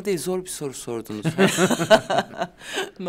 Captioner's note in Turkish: Gülüyorlar